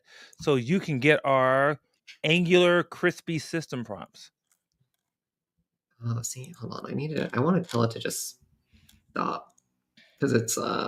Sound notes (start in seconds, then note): none